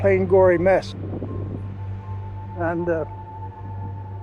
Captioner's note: wind howling